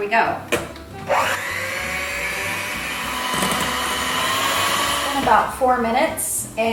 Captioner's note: electric mixer noises